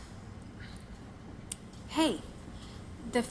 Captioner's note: sighs